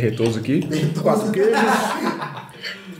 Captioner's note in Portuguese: risos